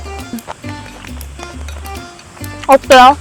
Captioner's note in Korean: 물개 박수